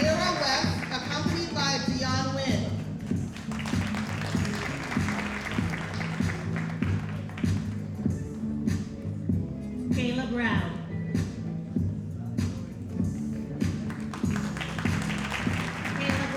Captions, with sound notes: Amira West, accompanied by Dione Win. (audience applauding) Kayla Brown. (audience applauding)